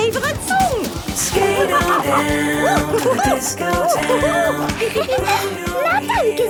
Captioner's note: laughing and exclaiming